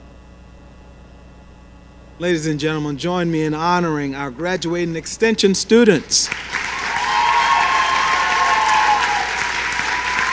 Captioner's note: cheering